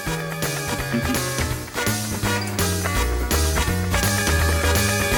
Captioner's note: Graham chuckles